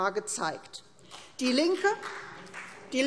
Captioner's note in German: Beifall CDU